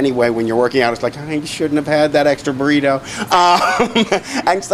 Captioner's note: laughs